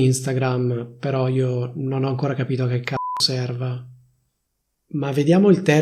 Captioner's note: beep